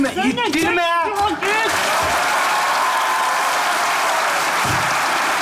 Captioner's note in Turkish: Alkış sesleri